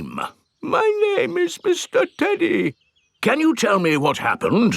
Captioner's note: in normal voice; in teddy's voice; in normal voice